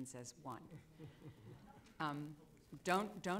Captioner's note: laughter